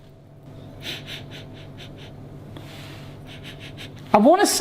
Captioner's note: sniffs